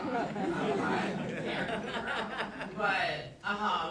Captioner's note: audience laughing